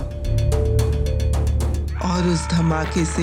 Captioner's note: yelling